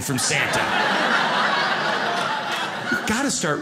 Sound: audience laughs

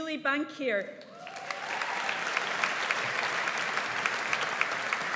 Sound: audience applauds

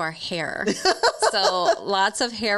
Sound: laughs

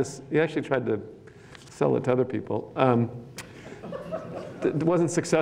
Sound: laughter

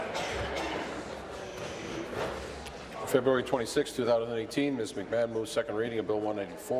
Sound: conversation din

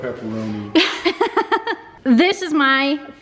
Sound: laughs

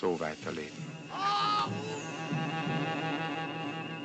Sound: Gary screaming

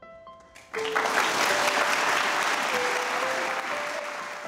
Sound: light music; applauds

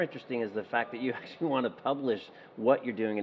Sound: laughing

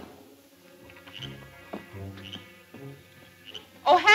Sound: frogs croak

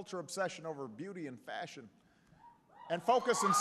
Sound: applause

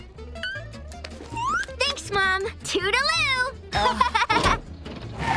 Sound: laughing

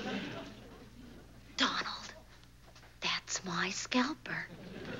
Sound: whispers

